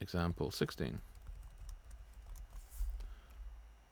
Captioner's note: keyboard clicking